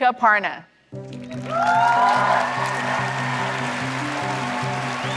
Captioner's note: applause